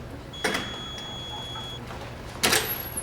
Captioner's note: door buzzes open